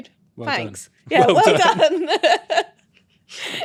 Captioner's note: laughing